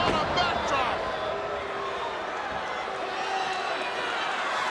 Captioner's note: crowd yelling